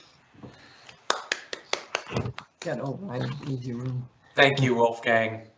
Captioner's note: claps